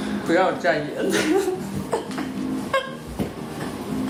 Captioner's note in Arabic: تضحك